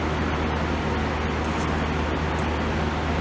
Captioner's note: none